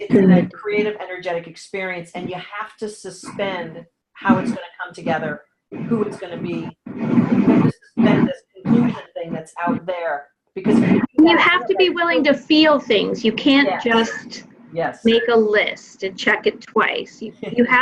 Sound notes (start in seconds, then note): 5.7 audio dropping